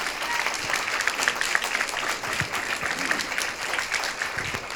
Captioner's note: audience applauding